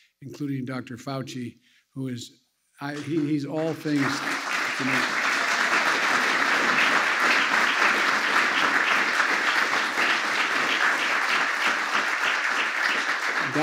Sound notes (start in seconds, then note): 10.1 applause